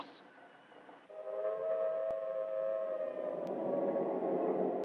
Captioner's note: siren wailing